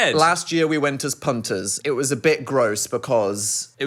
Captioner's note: none